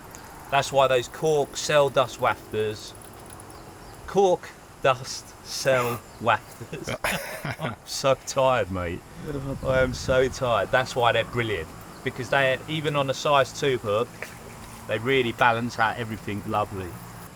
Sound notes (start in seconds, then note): 6.3 laughs